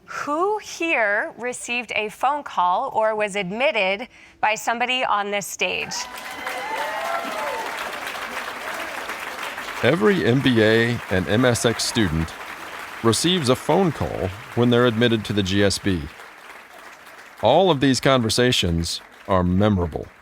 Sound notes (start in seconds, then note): 6.0 audience applauding